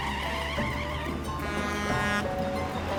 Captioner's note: horn honking